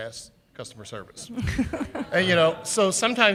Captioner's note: chuckle